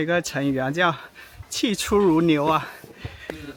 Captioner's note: a little panting